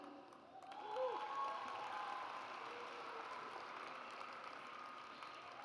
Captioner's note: audience applauds